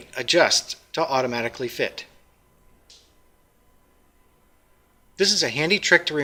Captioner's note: pause